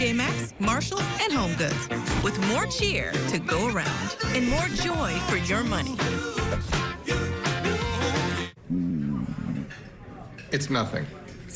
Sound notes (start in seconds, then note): 8.6 SFX: Stomach gurgling